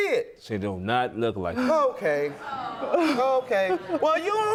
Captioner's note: scoffs